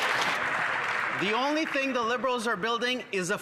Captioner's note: some Applause